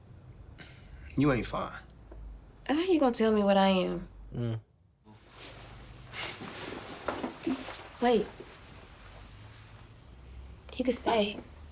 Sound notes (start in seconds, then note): none